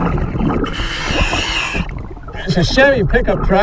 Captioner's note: water burbling; regulator hissing